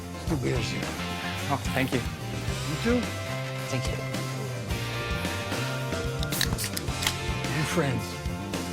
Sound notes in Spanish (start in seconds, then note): 6.2 Sonido al destapar las latas